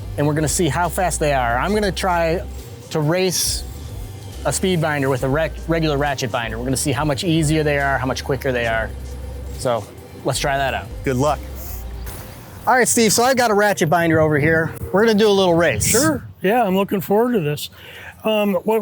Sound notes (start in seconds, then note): none